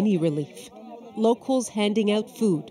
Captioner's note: chatter